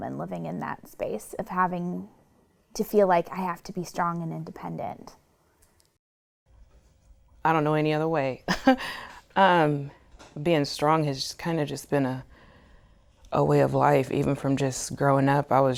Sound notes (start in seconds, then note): 8.5 chuckles